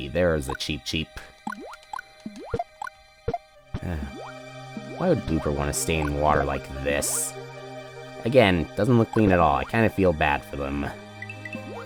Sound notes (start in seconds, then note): 3.8 sigh